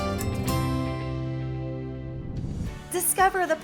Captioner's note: whoosh